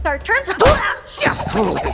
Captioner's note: Rudy groaning